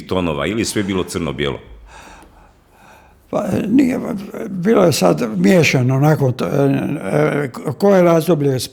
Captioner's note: sigh